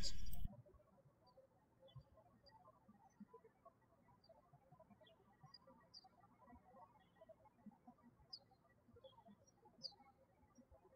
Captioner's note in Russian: птички щебечут